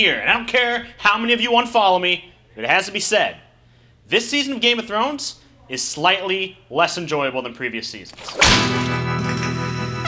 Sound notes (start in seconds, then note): 8.2 whip crack; 8.2 spaghetti western music